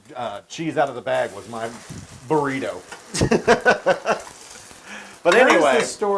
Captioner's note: laugh